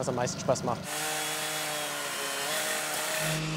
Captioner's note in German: Lautes Sägegeräusch